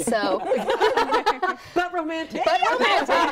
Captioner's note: group laughing